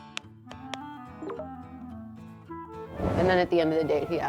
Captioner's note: phone pinging